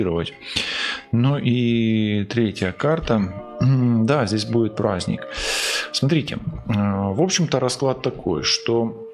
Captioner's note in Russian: фыркает